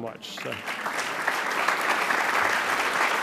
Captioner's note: applause